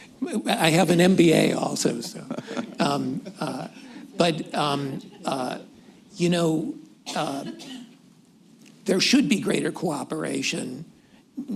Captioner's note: laughter